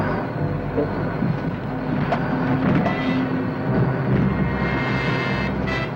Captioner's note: truck engine whirring; suspenseful music